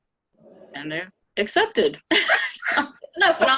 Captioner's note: laughing